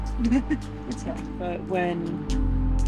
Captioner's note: chuckles